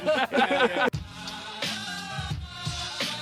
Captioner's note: laughing; upbeat music